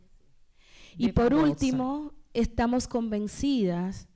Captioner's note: speaking spanish